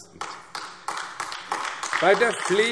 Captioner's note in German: Beifall AfD